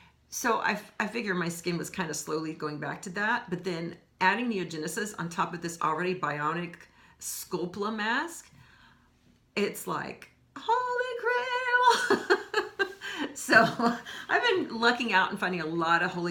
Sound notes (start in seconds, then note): 12.0 laughing